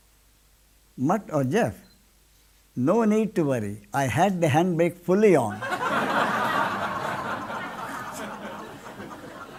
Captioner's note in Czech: smích